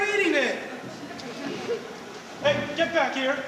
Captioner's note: soft laughter